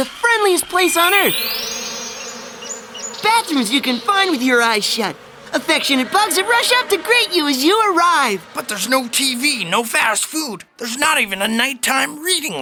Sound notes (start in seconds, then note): 2.4 buzzing